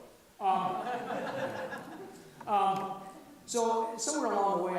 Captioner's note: audience laughs